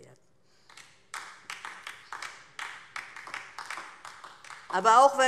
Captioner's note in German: Beifall DIE LINKE